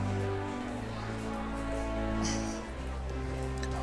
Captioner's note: sighs